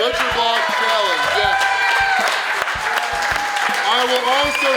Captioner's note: audience cheering